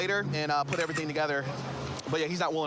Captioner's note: camera app clicks